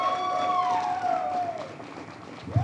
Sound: audience cheers

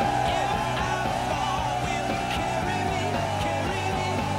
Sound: people cheering

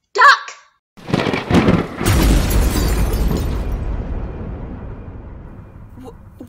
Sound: A thunderous explosion

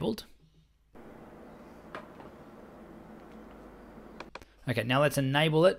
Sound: air conditioner humming

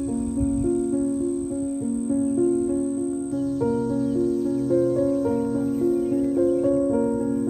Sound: cicadas chirping, singing in background

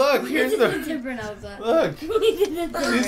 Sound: laughter

